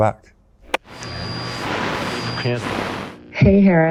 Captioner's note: radio buzzing; button clicks